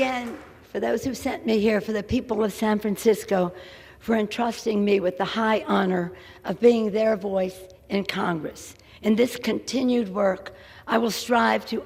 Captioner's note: applause